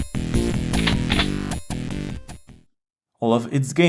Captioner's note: shotgun load